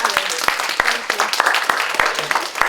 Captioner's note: applause